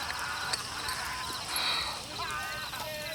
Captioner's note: Ned sighs; gang members laugh and yell